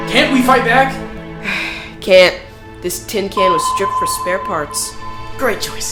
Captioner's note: sigh